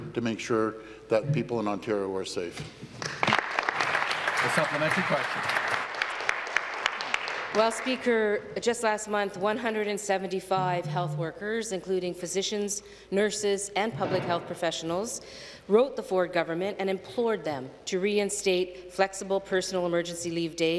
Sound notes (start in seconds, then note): 8.1 applause